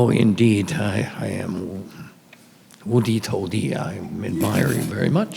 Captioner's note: speaks in Chinese